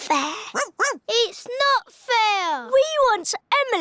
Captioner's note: barks